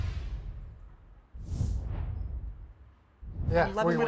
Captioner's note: air whooshes